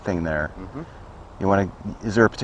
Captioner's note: MM-hmm